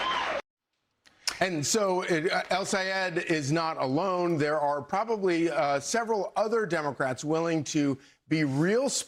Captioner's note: cheers and applause